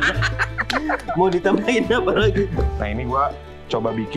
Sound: laughs

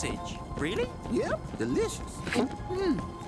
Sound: gulping

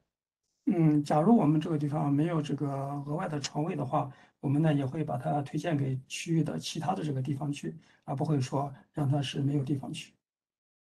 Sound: speaks in Mandarin

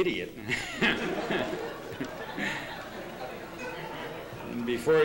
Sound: laughter

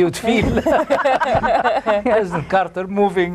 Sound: all laugh

